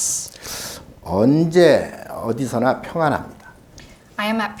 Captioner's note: speaking Korean